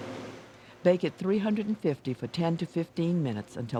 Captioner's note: voiceover